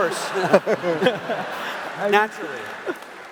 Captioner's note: laughter